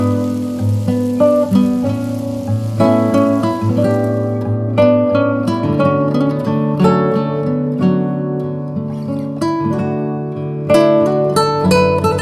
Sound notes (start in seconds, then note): 4.0 fry pan sizzle ends; 7.9 low tempo guitar music continues